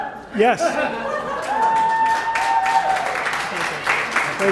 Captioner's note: applause